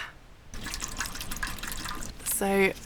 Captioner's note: slosh